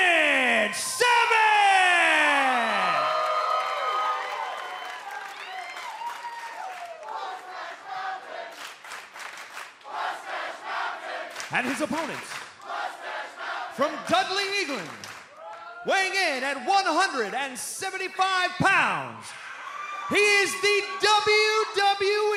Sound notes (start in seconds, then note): 2.3 cheers and applause; 7.7 fans chanting